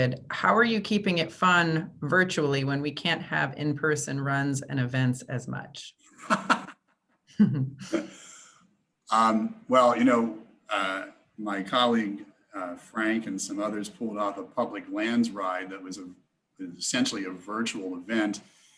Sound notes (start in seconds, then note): 7.4 gently laughs